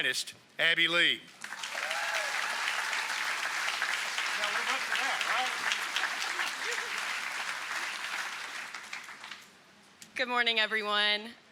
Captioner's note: applause